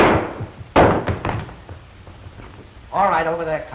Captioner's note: gunshot